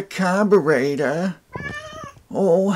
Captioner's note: cat noises